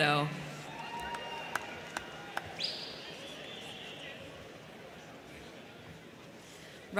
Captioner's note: crowd cheering; crowd clapping